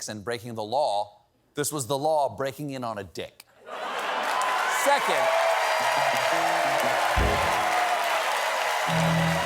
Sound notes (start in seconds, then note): 3.7 cheers and applause; 3.7 laughter